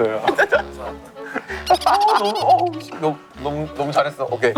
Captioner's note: laughing